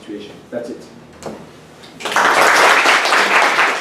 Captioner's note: applause